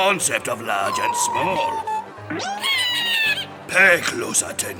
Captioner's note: mice chittering